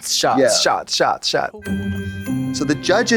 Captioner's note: festive chime